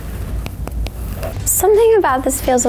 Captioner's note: thumps